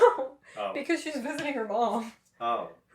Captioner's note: laughter